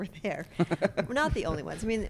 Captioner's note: laughs